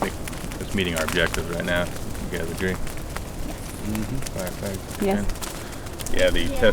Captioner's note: murmurs of assent; radio traffic